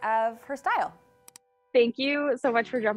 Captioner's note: computer mouse clicks